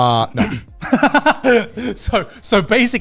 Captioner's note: laughing